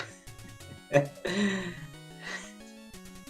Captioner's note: laughs